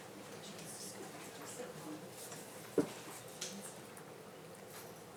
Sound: faintly speaking

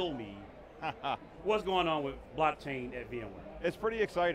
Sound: laughs

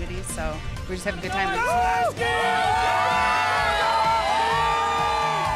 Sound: cheering

